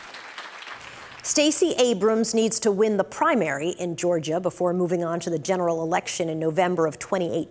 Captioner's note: applause